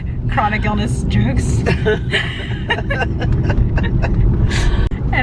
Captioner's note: both laughing